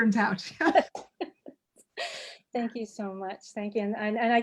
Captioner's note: laughing